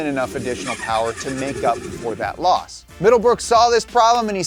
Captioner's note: car engine roaring